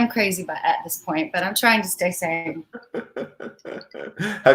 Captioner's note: laughs